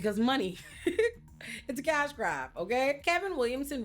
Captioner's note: laughs